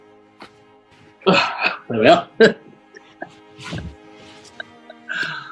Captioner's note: chuckles